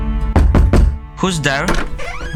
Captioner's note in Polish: Pukanie do drzwi